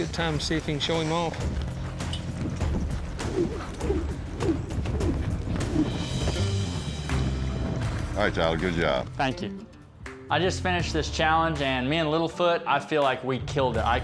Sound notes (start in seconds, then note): 2.0 rope whirling